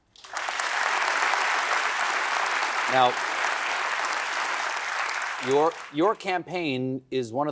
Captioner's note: applause